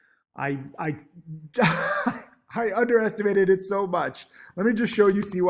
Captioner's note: laughs